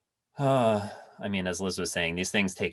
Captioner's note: exhales heavily